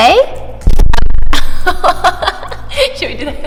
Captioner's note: laughs